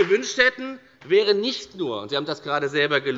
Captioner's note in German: Beifall bei der FDP